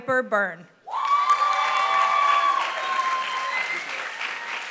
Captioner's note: applause